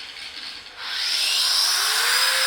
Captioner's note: loud whirring